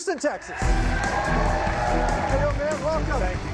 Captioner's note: cheers and applause